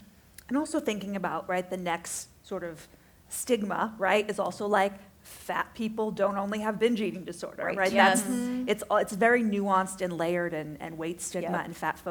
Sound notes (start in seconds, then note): 7.9 affirmative chatter